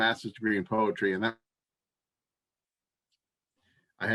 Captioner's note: audio cut